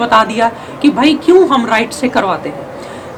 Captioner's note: alternate nostril breathing